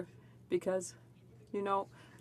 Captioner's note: speaking French